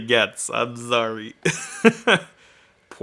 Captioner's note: laughing